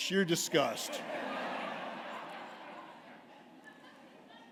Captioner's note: laughter